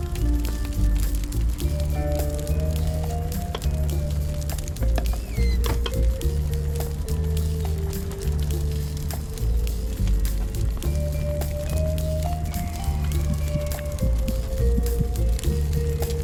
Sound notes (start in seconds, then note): 4.8 door creaks